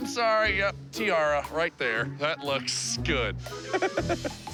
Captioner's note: laughs